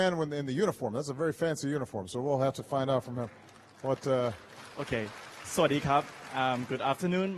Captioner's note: applause